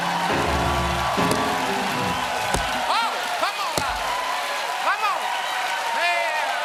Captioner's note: applause